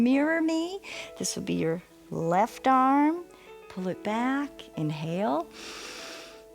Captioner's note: inhales